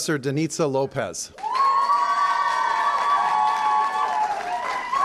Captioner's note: cheering & applause